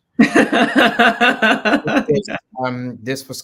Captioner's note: laughs